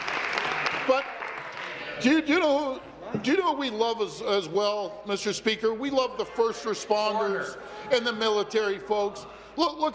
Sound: applause

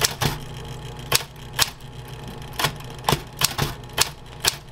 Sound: clicking

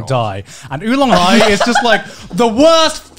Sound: laughing

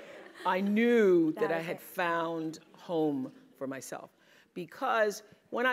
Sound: laugh

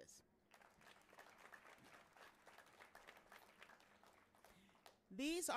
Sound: audience cheering and applauding

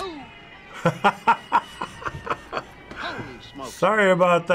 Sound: chuckling

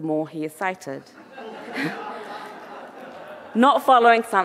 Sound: audience laughing

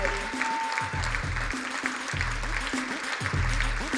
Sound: crowd cheering and applauding; upbeat music

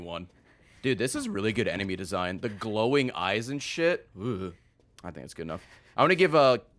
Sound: shudders

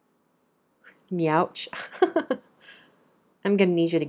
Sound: laughs

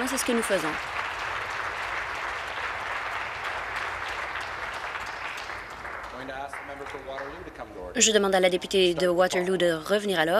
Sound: applause

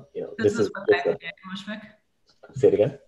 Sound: faintly speaking

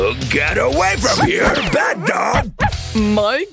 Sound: barks

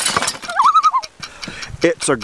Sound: loon call

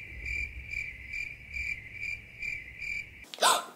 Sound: cricket noise

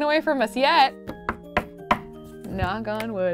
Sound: knocking

